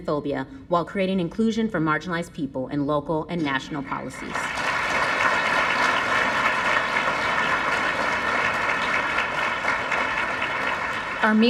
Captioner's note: applause